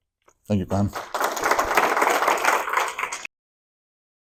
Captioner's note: applause